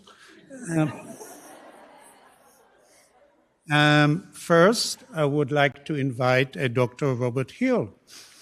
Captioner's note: laughter